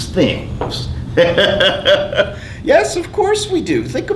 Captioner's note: laughing